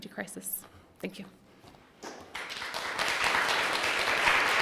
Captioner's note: applause